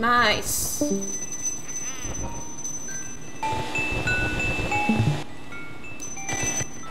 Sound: Discord sounds

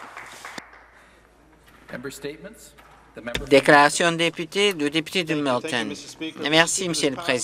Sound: some Applause

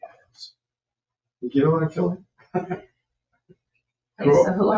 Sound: chuckles

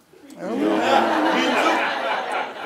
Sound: laughing

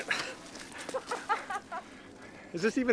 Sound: Lindsey laughs

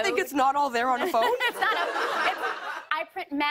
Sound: laughter

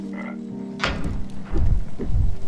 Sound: creature croaking; cane thudding; wings beating

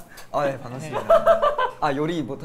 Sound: laughing

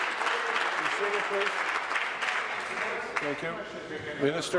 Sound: applause

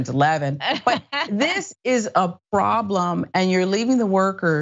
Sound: laugh

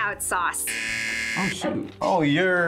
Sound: buzzer rings

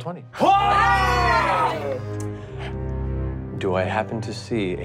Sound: gasps

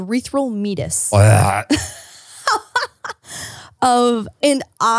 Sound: laughing

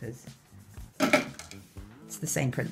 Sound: clattering

